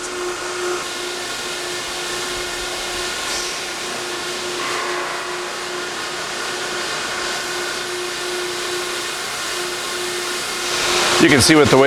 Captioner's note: machine noise